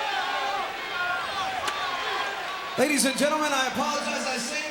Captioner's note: crowd cheering